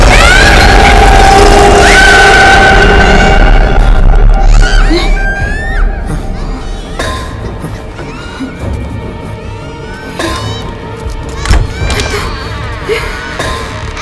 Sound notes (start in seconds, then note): 0.0 screaming; 7.0 screaming; 11.6 screaming in fear